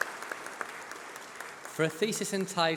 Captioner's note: applause